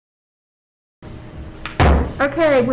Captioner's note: gavel bangs